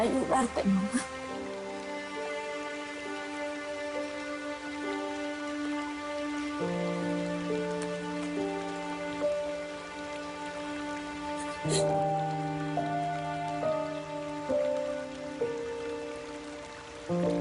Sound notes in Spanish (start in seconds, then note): 11.4 Sollozos